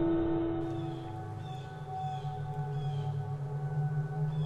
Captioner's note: birds chirping